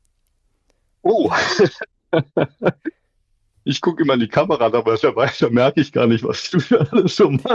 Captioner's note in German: gelächter; gelächter